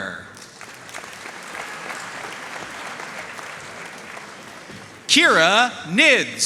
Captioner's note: audience cheering and applauding